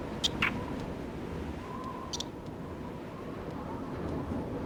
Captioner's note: creatures chirp; wind whistles